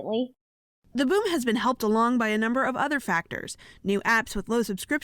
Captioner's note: voice-over